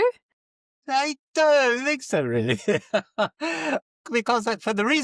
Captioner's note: laughs